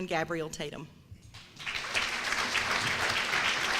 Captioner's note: applause